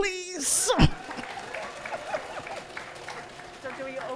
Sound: audience applauding

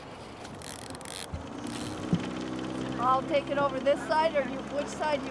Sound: reel spinning

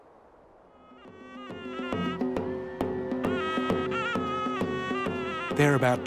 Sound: horn blowing, drums beating; crowd cheering

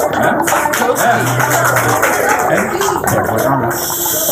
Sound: clapping

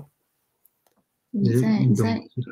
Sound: speaks mandarin

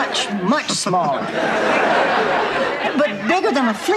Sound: audience laughter

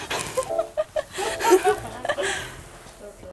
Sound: laughing

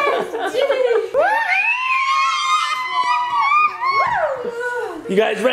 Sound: dad laughing; mom and kids cheering

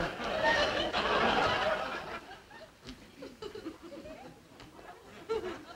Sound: audience laughing

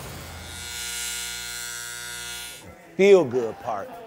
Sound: razor buzzing

